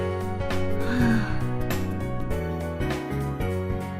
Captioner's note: breathes out